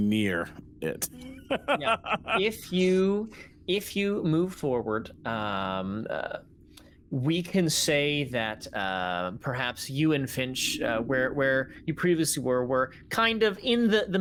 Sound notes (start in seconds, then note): 0.9 laughing